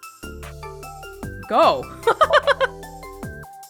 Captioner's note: chuckles